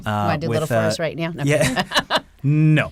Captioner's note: laughs